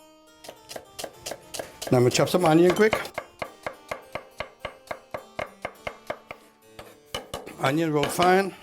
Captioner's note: chopping sounds